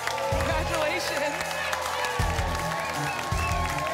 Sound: applause and cheering cont

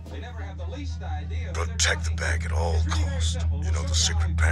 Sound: man on the phone

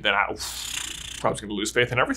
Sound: blows raspberry

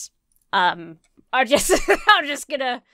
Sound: laughs

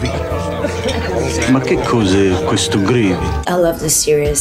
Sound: speaking italian

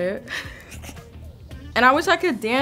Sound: chuckling

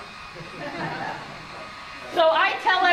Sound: laughs

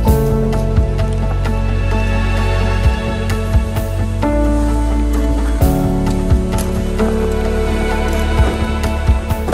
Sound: sound of sled sliding on the snow and crunching footsteps

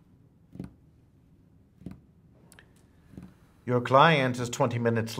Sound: desk tapping

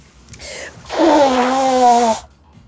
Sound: blows nose

